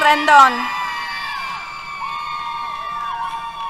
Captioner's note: cheers